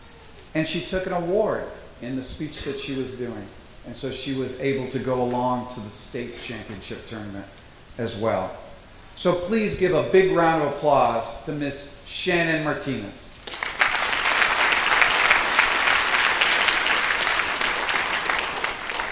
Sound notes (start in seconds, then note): 16.0 applause